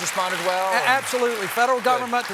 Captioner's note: applause